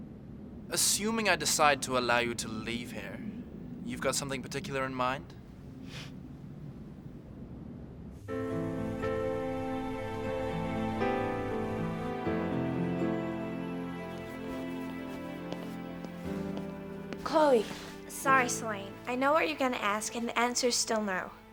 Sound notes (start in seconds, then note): 5.8 exhales; 7.8 mellow music